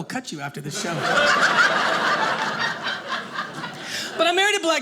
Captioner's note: audience laughing